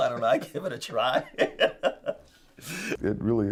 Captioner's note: laughing